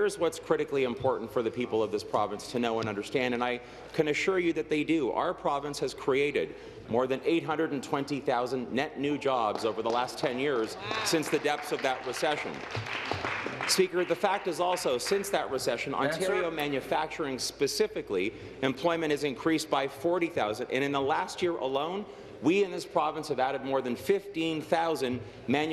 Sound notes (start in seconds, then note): 16.4 applause